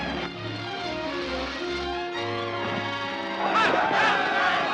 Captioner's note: shouting